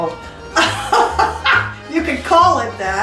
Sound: laughs

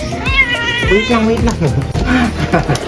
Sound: Meowi Meowing

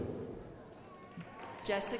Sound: crowd applauding

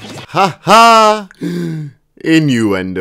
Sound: inhale

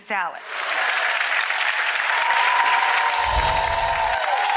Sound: audience applauds

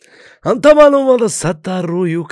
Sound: in Arabic

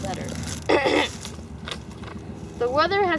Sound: clears throat

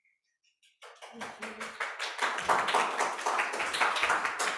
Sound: crowd applause

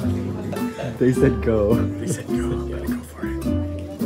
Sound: chuckles

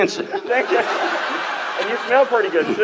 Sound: laughs

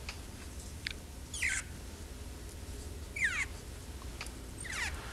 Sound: fibers squeaking

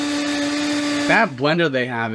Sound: blender whirring

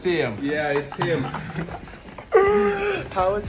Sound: laughs

